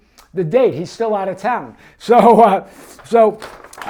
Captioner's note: laughs